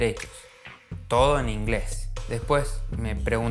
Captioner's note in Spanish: Todo en inglés